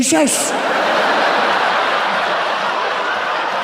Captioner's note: audience laughs